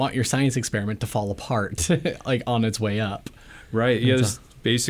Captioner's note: laughs